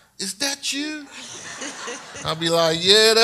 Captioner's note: audience laughs